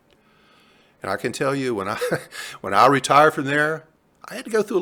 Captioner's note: chuckling